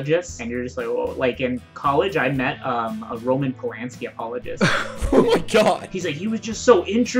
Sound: laughter

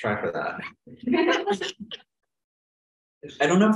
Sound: laughter

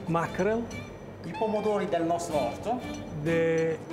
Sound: speaking Italian

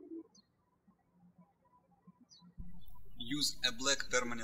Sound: birds chirping

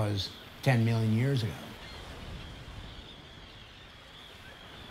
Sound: birds cawing

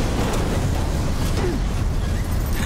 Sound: grunting; beeping

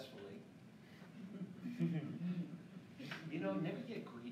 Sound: laughing

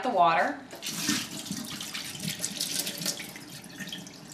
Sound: water plink

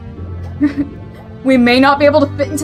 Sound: nervous laughter

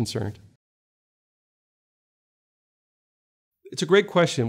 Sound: silence

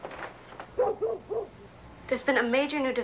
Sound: dog barks

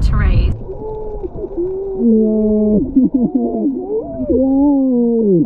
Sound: underwater gurgling

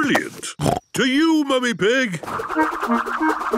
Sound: snorting

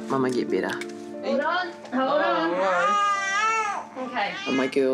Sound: baby cries

